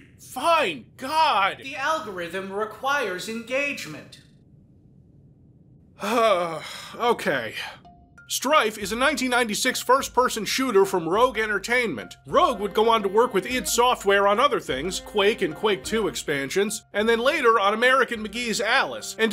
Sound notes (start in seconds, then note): 6.0 sigh